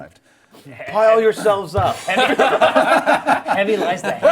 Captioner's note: group laughs